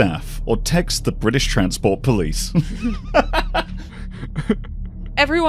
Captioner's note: laughs; train starts moving and rumbling again